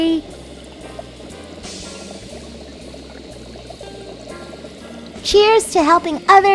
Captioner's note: liquid burbling; bunsen burner hissing